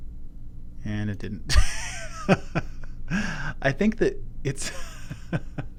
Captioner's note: laugh